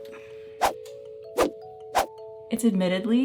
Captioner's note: digital whooshing